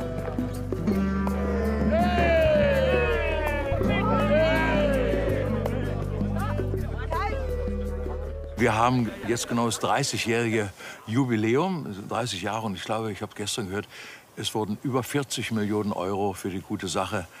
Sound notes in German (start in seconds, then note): 1.6 Jubel